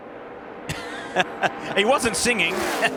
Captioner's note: laughter